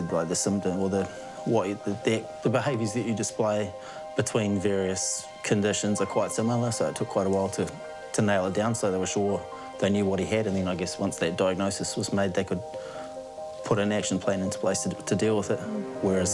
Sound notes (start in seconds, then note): none